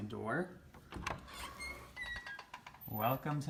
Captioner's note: door squeaking